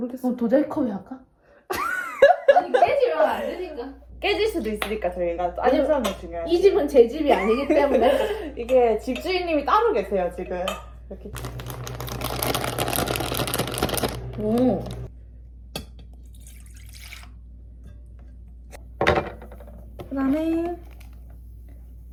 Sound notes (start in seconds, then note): 11.4 a loud shake